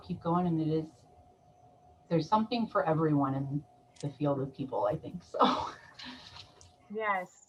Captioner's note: chuckles